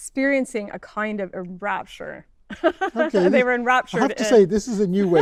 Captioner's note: laughs